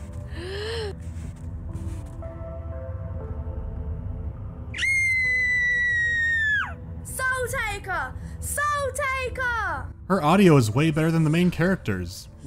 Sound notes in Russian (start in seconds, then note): 0.3 девочка ахает; 4.7 девочка кричит